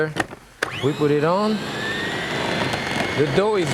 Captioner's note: appliance whirring